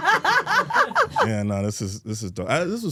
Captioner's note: Steph laughing